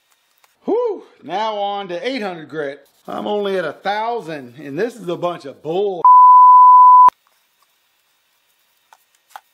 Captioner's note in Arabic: بيب